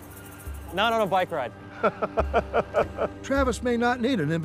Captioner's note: chuckles